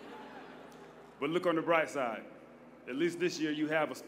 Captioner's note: laughter